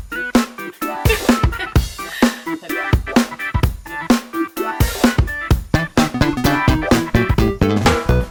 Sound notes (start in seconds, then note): 1.0 laughs